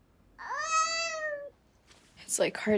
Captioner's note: baby cries